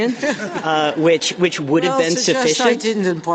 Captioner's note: laughter